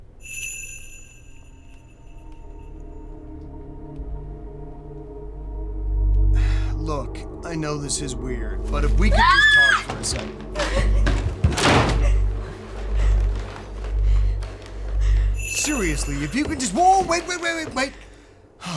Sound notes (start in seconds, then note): 0.2 bells jingling; 2.0 tense music; 12.0 Jenna screams